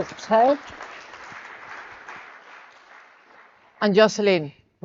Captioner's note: audience clapping